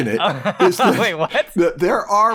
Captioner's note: laughter